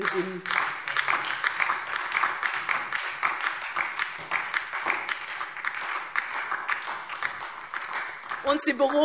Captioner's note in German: Beifall DIE LINKE und SPD